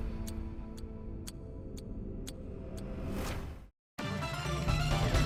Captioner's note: upbeat music; clock ticking; upbeat music